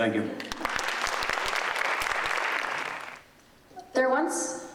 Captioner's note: audience applauding